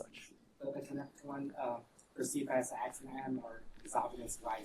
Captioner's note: student faintly speaking